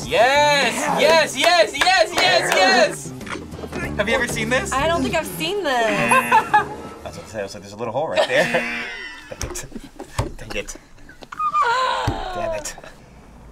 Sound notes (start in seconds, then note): 5.9 laughs; 6.0 buzzer; 8.1 both laugh; 8.4 buzzer